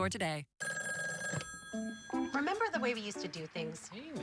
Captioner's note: phone ringing